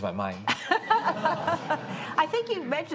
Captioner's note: and audience chuckles